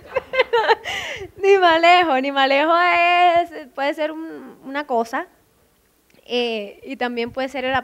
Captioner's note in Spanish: risas